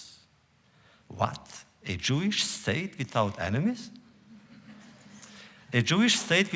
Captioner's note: laughter